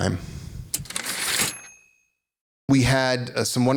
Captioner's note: typewriter ding